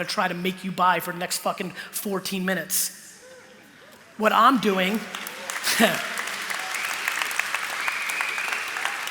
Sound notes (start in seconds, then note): 4.6 applause; 4.9 cheering; 5.6 chuckle